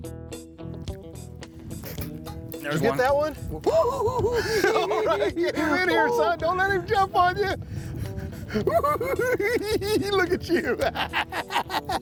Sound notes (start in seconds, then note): 3.6 imitates Johnny's laugh; 8.2 cackling